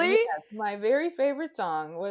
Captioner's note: chuckles